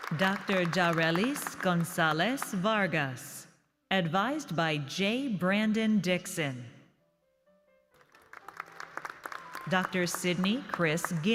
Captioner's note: applause